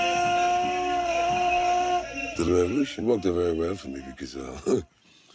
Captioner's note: blows conch